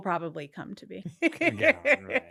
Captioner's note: laughs